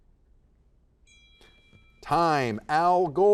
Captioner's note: bell dings